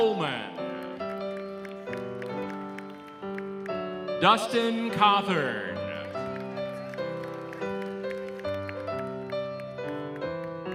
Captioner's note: applause